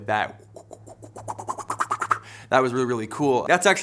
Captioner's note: fast whirring